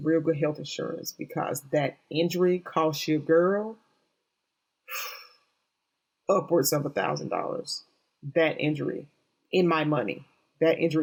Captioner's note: exhale